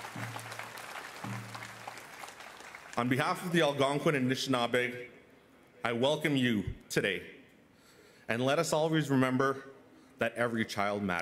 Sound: cheers and Applause

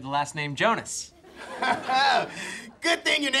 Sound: laughing

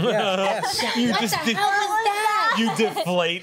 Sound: laughter

